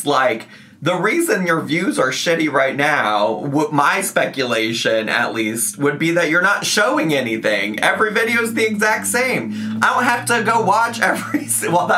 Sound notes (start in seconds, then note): 6.9 engine revving; 11.1 laughing